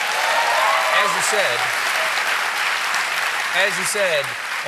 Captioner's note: applause; cheering